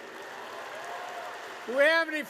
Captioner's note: applause